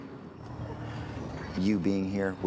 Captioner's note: crying softly